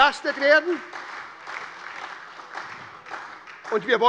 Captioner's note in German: Beifall bei der SPD